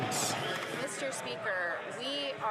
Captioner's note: some Applause